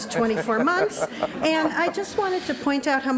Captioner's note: laughs